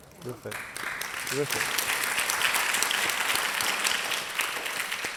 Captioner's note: audience applauding